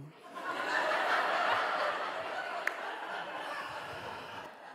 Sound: audience laughing

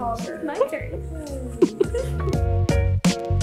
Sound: giggles; cheery piano music

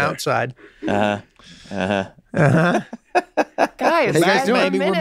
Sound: laughs

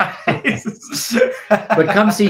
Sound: laughing

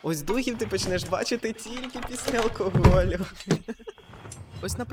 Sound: laughs

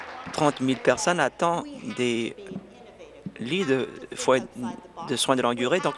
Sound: applause

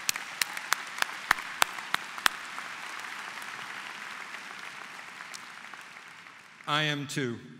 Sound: applause

